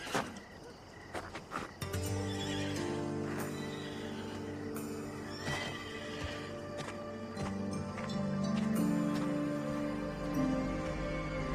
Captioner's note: horse whinnies